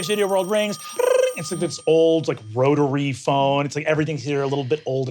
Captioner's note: mimics phone ringing